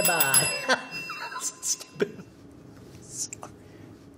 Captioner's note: dings bell furiously; laughing